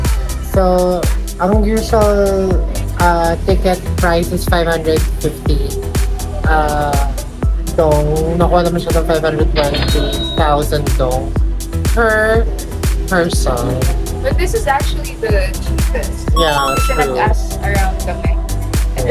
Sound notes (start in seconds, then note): 9.7 cash register SFX; 16.4 victory SFX